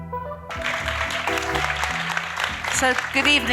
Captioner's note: audience applauding